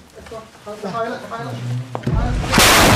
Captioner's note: excited voices; bang